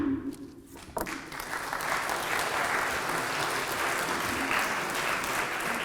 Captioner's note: applause